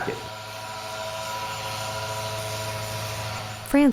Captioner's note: buzzing